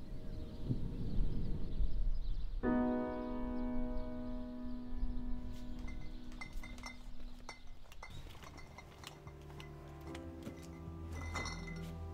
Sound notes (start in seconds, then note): 5.7 bottles clank